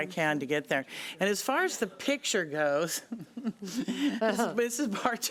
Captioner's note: laughs